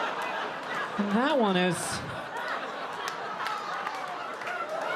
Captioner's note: audience laughing